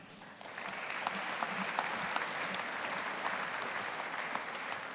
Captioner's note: audience applauding